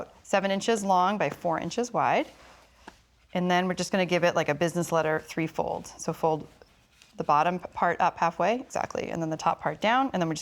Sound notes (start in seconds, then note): none